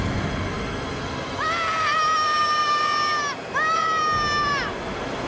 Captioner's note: Andrew screams